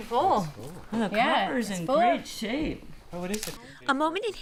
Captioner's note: background talking